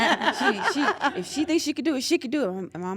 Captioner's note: laugh